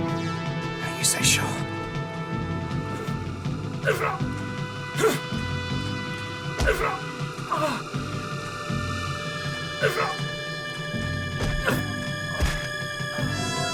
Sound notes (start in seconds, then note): 3.7 face hit sound; 3.7 grunting and groaning sounds